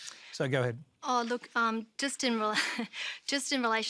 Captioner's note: chuckles